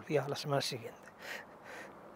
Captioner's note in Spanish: Ríe